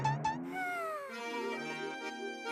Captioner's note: sighing